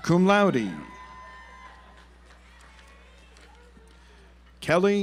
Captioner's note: audience applauds